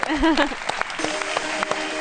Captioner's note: applause